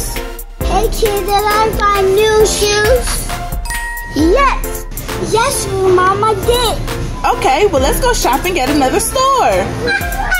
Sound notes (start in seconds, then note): 3.6 chiming